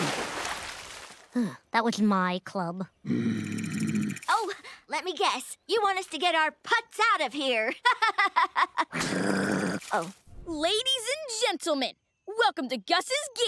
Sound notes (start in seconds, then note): 3.1 groaning; 7.8 laughing; 9.0 groaning